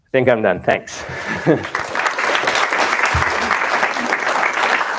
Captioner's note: applause